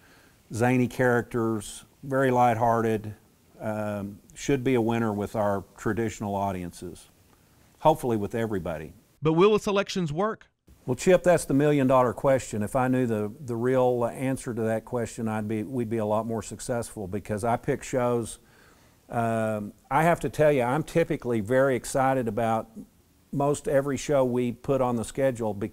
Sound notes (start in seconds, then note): 9.3 voiceover